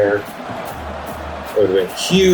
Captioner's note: crowd Noises